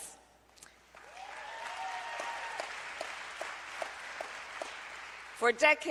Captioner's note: applause